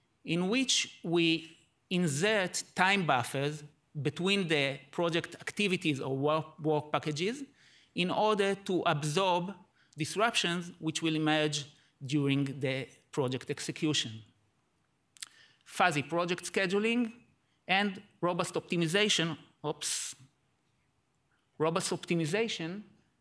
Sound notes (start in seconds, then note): none